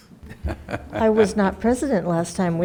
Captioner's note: laughing